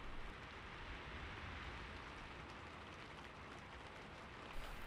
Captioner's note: raining sound